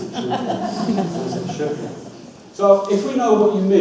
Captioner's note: audience laughs